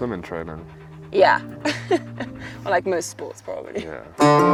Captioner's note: laughs